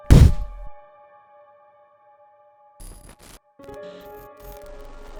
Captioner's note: blasts mic on cam